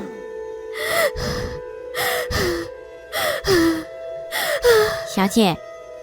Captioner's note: laboured breathing